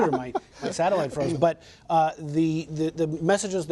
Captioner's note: laughter